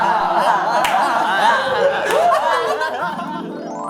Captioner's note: hahaha